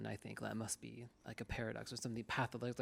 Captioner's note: none